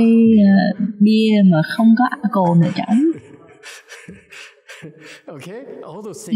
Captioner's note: laughter